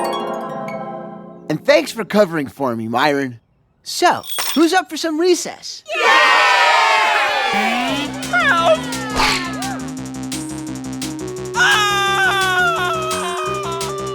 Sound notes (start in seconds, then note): 5.8 cheer; 9.3 bites and snaps